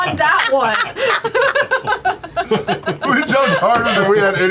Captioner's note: laughter